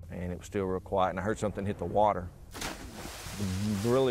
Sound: water splashes

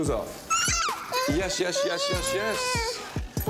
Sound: squealing

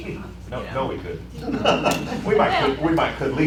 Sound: laughter

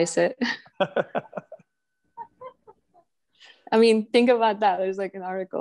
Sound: laughs

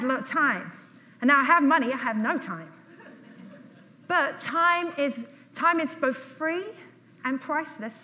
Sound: audience laughs

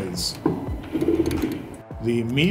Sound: low pitch gear rumbling

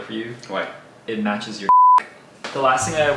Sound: beep

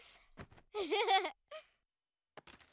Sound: laughing

